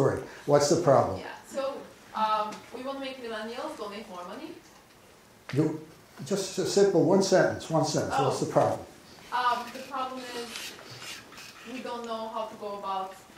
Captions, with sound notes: What's the problem? - [Voiceover] So, we want to make millennials donate more money. - Just a simple, one sentence. One sentence. What's the problem? - [Voiceover] The problem is, we don't know how to go about